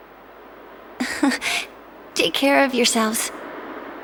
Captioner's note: chuckle